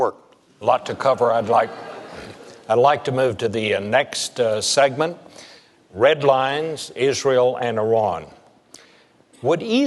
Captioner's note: murmurs